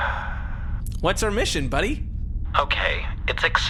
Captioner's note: sighs